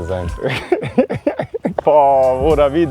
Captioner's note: joyful laughter